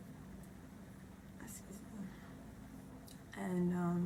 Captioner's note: whispers